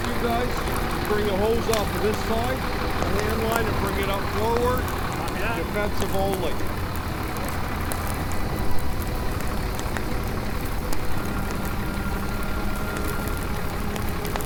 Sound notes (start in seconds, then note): 7.6 gentle music; 8.9 fire raging; 11.1 gentle music